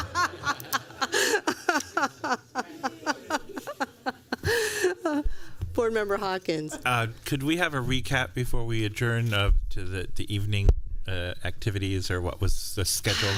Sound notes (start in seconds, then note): 2.2 laughter